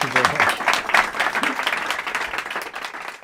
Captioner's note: applause